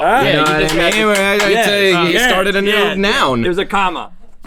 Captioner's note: clapping